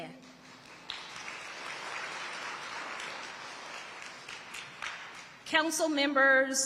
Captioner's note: audience applauding